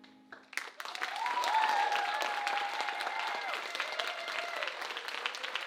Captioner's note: audience cheering and applauding